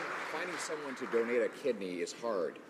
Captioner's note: some Applause